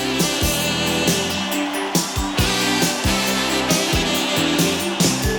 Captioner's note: audience cheering; upbeat music